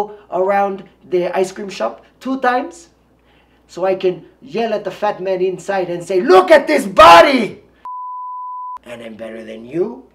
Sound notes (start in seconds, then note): 7.8 long beep